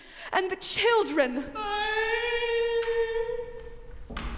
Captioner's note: moans offstage